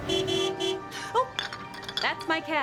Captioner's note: horn honking